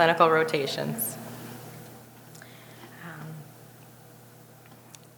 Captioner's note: audience chuckling